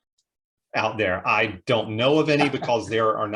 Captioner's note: laughs